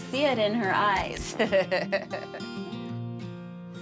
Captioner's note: laughs